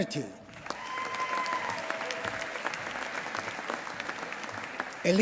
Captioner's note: applause